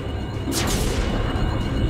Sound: explosion

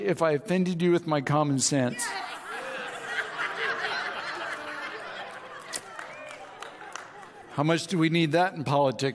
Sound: audience laughs

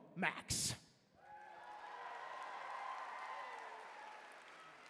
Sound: cheering

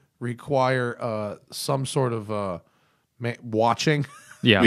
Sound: laughter

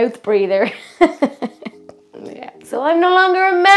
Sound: laughs

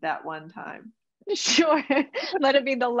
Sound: laughs

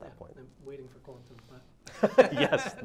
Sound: laughs

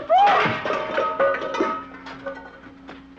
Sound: pan clanking

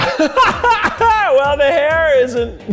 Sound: laughing

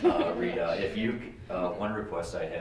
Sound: laughs

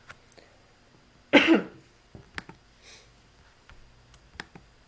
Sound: woman coughs

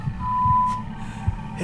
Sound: phone beep

